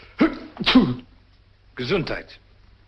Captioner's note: sneezes